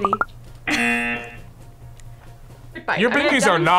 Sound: laughs; buzzer

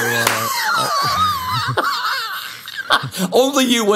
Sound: laughs

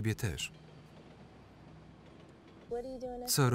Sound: traffic passing

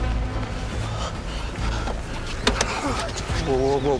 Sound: Alister panting

